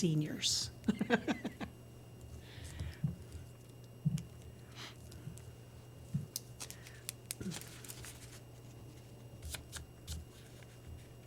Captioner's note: laughter